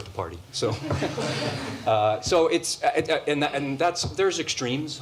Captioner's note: laughter